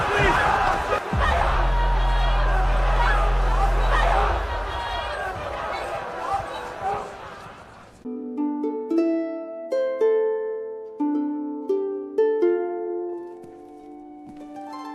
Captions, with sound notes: (angry crowd shouting) CROWD: Please, please.